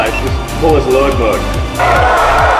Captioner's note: door beeping; crowd cheering